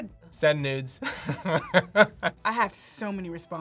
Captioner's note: laughs